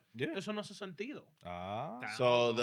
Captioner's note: speaking In Foreign Language